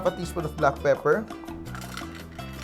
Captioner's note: clink